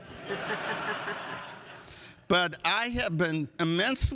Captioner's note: audience laughs